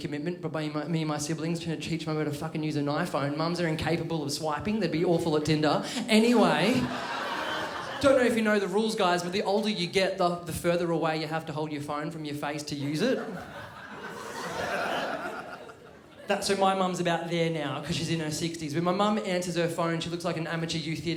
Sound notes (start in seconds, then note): 6.2 crowd laughs; 12.8 crowd laughs